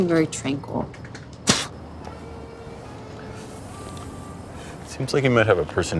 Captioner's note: woman spitting gum